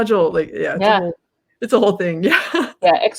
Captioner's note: laughs